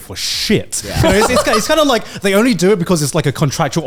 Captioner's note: all laughing